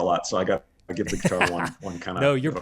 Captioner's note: laughing softly